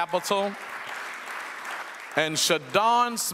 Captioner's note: audience applauds